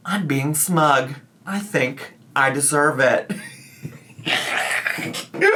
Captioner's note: laughs